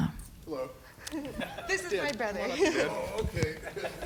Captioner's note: laughing